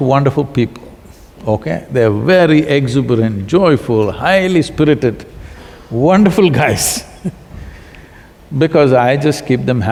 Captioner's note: laughs